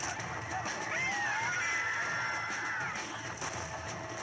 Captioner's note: screams of mutant spitter